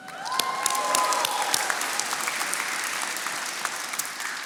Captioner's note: attendees applauding